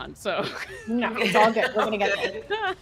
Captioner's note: laugh